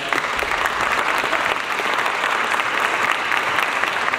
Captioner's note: audience applauds